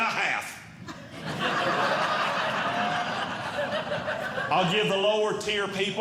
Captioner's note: audience Laughing